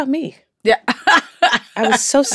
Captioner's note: laughter